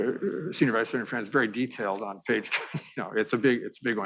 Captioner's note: laughing